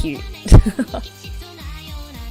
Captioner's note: laughs